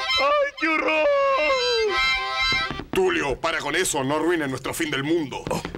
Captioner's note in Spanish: none